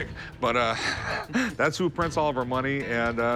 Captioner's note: laughs